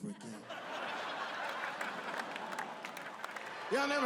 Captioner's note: audience laughing